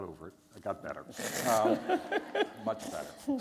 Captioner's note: laughter